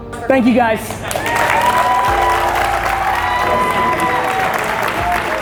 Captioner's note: audience applauds